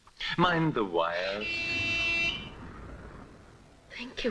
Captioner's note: horn honks